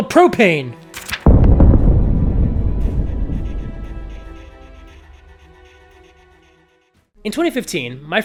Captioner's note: boom